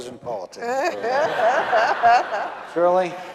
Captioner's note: audience laughing